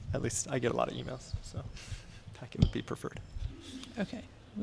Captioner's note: laughter